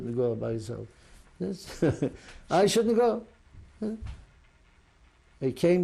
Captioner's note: laughs